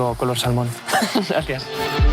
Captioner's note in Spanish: Risas